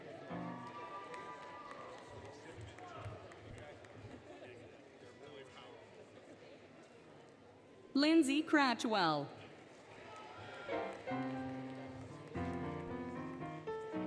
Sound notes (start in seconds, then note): 0.0 applause, Cheering, Music; 6.2 indistinct Chatter; 10.0 applause, Cheering, Music